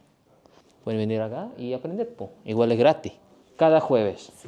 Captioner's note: Spanish; Spanish